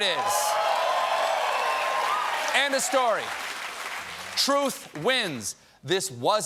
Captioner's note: cheers and applause